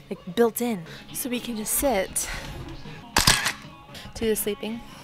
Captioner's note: camera shuttering